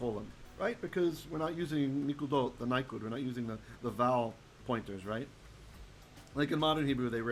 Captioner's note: Hebrew